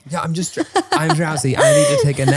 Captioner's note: laughing